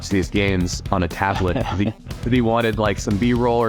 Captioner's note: laughs